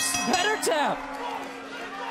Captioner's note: bell ringing